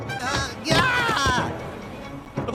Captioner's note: Dale Screams